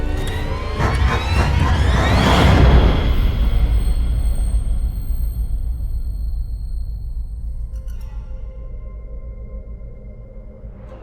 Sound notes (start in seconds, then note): 2.5 dramatic, jarring music; 2.5 high pitched humming; 7.7 gentle, eerie music